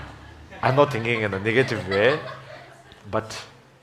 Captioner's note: laughs